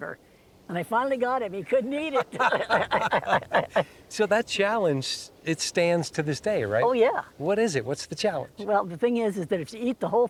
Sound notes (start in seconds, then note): 3.6 laughter